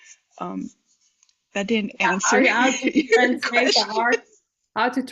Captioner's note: laugh